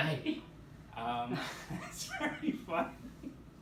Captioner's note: laughter